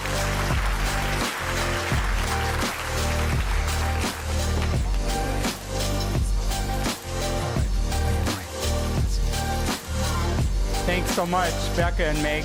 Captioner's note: applause